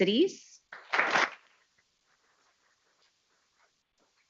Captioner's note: people clapping